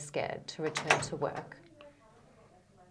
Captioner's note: door creaks